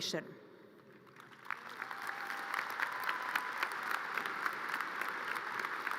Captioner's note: audience cheers and applause